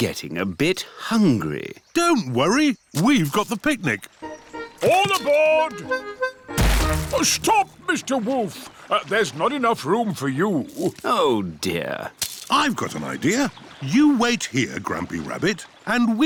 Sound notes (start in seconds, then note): none